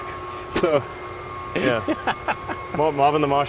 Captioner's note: laughs